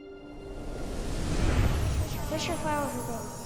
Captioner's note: air swooshes